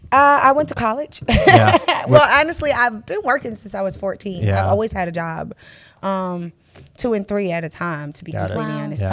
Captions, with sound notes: -I went to college. [laughs] Well, honestly, I've been working since I was 14. I always had a job. Two and three at a time to be completely honest.